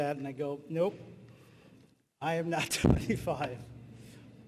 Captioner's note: laughing